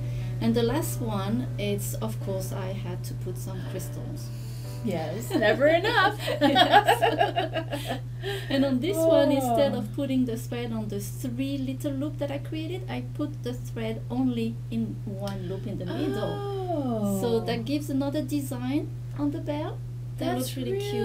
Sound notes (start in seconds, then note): 6.2 laughs